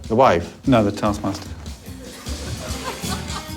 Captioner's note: laughter